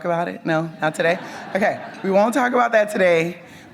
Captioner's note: audience laughs